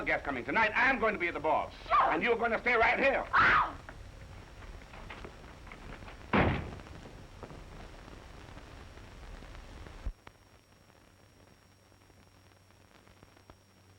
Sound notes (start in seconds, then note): 3.3 Mary Lou screaming